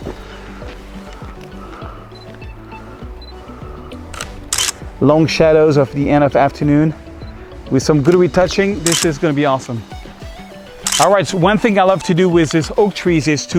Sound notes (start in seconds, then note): 4.1 camera shutter clicks